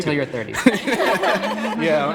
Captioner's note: group laughing